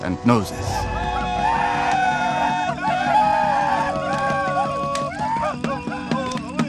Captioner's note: tribe whooping and chanting; singer singing in Mohawk